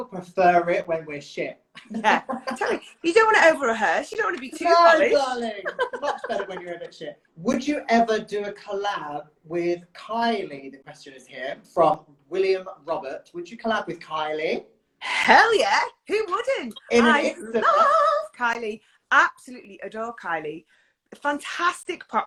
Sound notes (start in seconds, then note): 1.8 laughs; 5.6 laughs